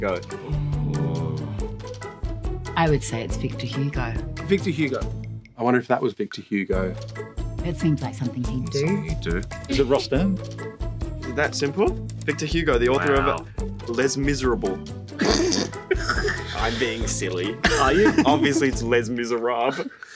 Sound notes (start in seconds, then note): 15.2 laughing